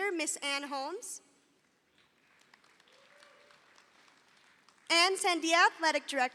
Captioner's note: audience applauding